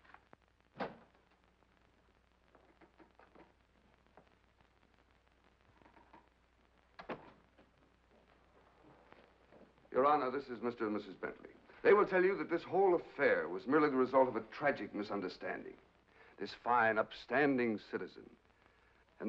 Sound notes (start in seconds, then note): 0.8 door opens; 7.0 door closes